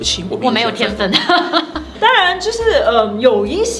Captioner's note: laughs